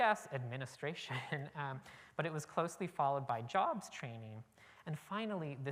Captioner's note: chuckle